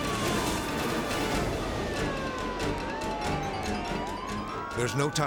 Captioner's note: intense dramatic music; sirens blare